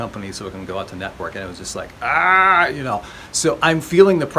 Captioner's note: yells